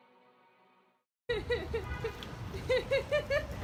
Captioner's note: laughter